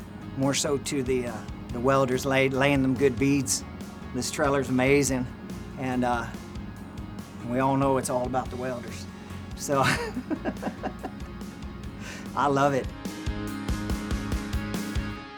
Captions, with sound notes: more so to the welders laying them good beads. This trailer is amazing. And we all know it's all about the welders. So (laughs). I love it.